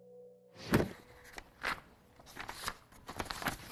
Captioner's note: rustling